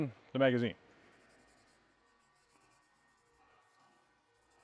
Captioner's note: patch scratches